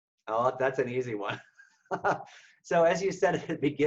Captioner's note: laughs